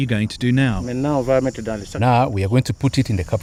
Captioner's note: non-english speech